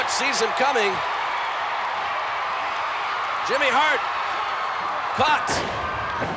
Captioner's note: applause